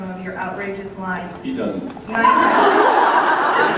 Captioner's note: laughs